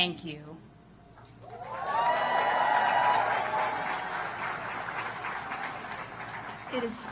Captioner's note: applause